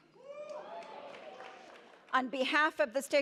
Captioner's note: audience cheers